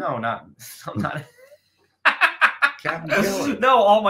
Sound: laughing

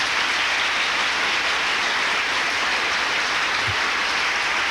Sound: applause

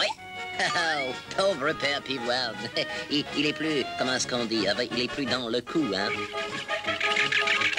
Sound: chuckles

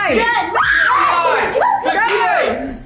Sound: girls scream

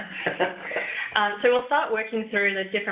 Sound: laughs

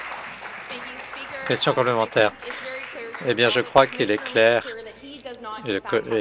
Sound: applause

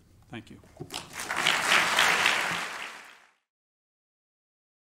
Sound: applause

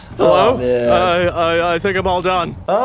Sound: stutters

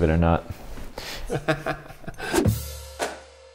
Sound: laughing

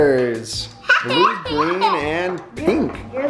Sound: laughing

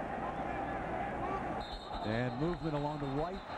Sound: whistle

